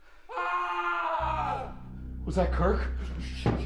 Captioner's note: screaming